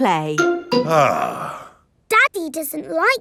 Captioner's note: sighs